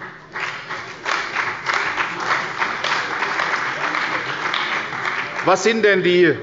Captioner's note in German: Beifall bei der CDU und dem BÜNDNIS 90/DIE GRÜNEN